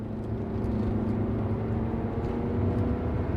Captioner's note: car accelerates